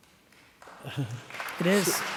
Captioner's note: applauding